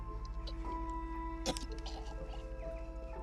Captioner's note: gagging